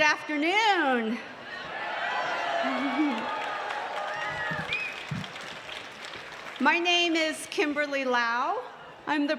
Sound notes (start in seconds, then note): 2.6 applause